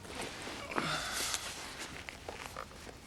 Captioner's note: Drew sighs